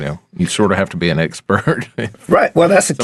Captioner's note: chuckling